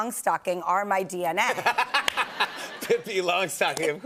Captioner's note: laughter